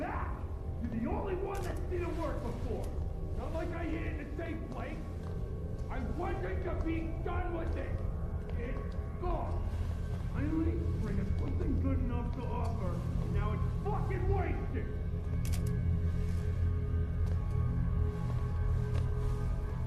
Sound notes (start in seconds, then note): none